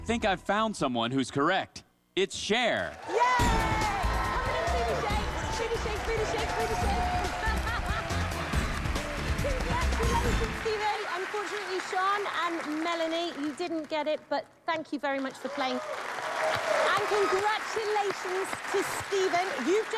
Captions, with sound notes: - I THINK I FOUND SOMEONE WHO'S CORRECT. IT'S CHER. [cheers and applause] - DO THE BOOTY SHAKE. BOOTY SHAKE, BOOTY SHAKE. BOOT SHAKE. [laughs] CONGRATULATIONS, STEPHEN. UNFORTUNATELY, SHAWN AND MELANIE, YOU DIDN'T GET IT, BUT THANK YOU VERY MUCH FOR PLAYING, OKAY? AND CONGRATULATIONS TO STEPHEN.